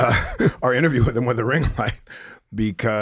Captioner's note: chuckles